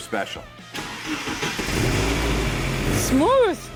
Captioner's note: engine roars